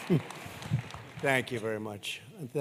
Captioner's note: laughter; applause